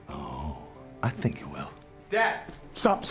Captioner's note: scottish accent